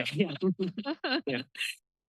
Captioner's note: laughs